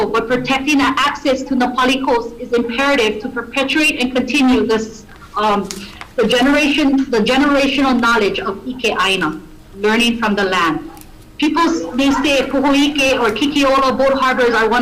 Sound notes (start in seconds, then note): 8.8 foreign language